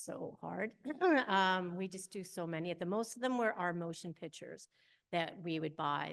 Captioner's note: chuckles